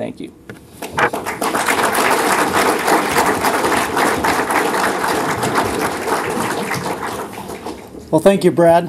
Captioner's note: applause